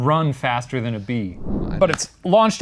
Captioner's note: air whooshing